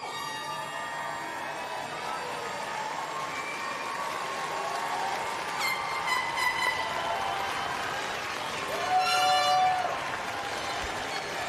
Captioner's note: applause